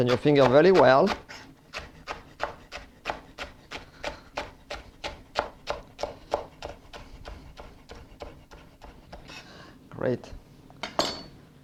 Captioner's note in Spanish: sonido cortando